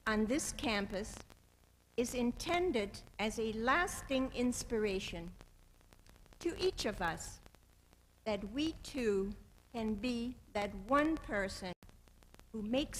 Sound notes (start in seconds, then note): none